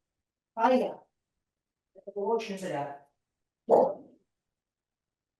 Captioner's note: speaks Russian